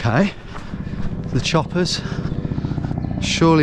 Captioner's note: helicopter whirring